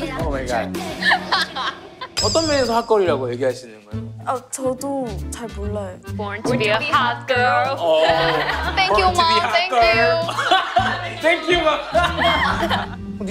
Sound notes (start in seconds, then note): 1.0 giggling